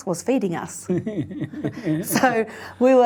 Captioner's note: laughs